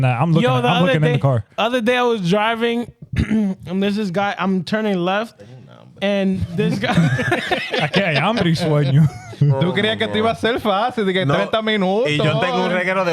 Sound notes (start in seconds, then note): 6.4 laughing; 11.3 speaking In Foreign Language